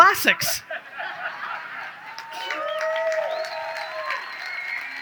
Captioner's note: audience cheers